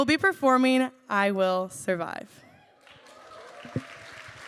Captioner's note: applause